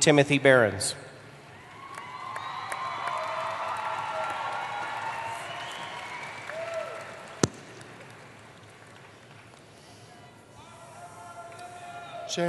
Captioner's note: applause